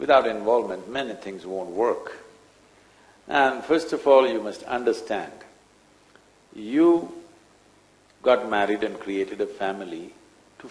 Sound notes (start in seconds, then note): none